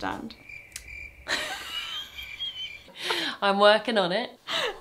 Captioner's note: crickets screaming